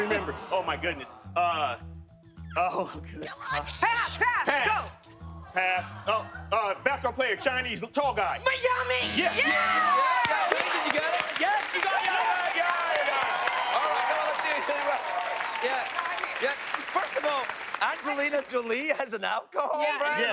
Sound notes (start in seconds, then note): 13.0 cheers and applause